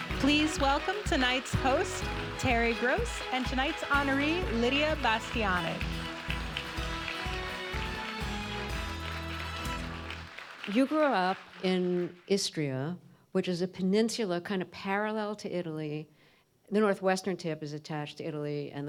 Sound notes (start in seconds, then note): 6.3 audience applauding